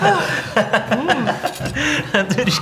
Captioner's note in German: lachen